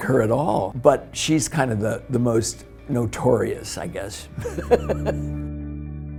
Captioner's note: laughs